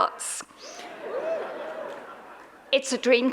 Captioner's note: audience cheers; audience laughs